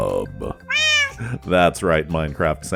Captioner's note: meow